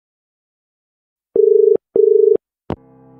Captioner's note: dial tone